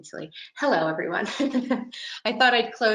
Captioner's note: laughs